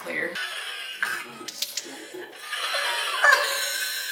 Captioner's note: laughing